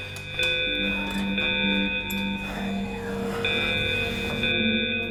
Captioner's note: emergency alarm sound